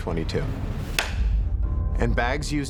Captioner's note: gavel slams